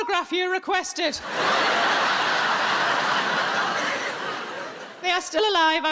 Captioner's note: audience laughing